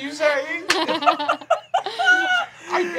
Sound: laughing

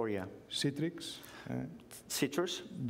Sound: speaking catalan

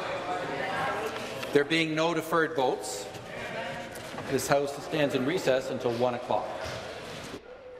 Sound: conversation din

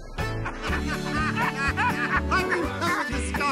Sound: upbeat music; cars laughing

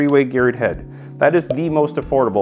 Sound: bubble pops

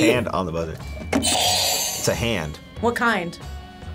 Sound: buzzer rings

